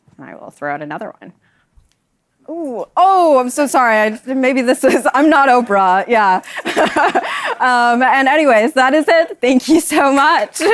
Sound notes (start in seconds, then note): 6.1 laughs